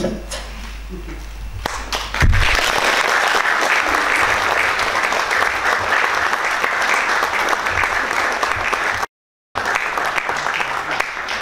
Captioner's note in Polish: oklaski